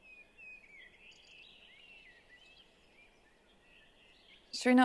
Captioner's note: birds chirping